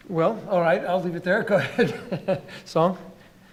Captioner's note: laughing